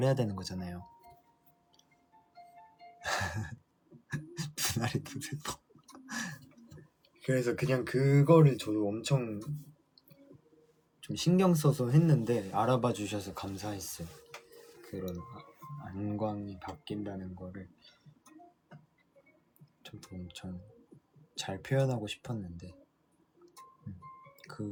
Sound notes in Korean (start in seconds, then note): 4.1 웃음